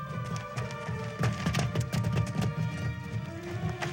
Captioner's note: hurried footsteps